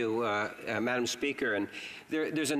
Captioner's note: speaking in french